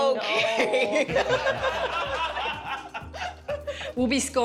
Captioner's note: laughter